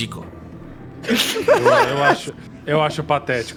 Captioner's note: laughs